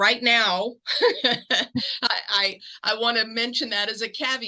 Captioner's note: laugh